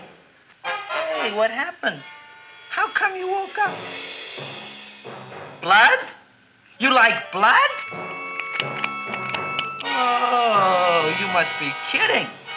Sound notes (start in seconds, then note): 7.9 Audrey Jr. snapping